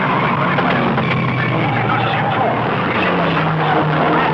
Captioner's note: tires skidding